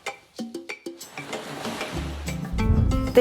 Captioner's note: subtle groovy music; graphic whooshes